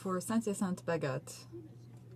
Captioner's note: speaking French